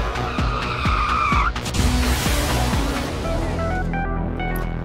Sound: tires squealing; spacecrafts whooshing; apprehensive synth music

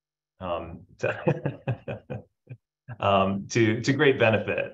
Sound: chuckles

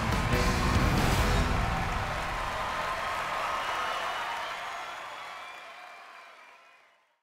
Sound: audience cheers, whistles

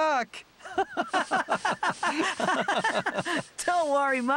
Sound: laughing

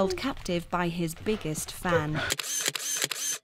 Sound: camera flashes

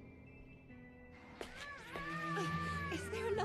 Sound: baby crying

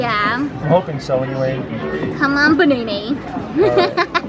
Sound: laughing

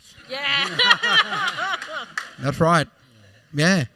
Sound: laughter

